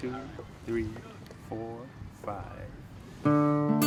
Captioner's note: counting off; rhythmic guitar music